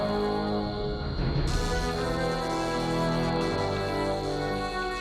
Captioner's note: zapping